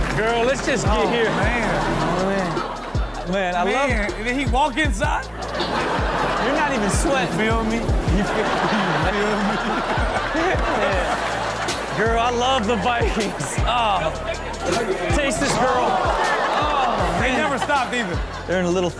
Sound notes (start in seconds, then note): 5.4 audience laughs; 8.5 audience laughs; 16.1 audience gasps; 16.9 Chanel laughs